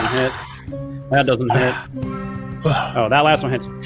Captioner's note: groans